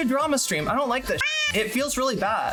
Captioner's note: meow